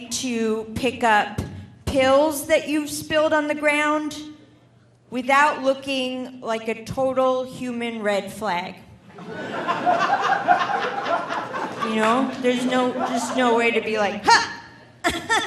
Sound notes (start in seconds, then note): 9.1 audience laughing; 14.2 laughs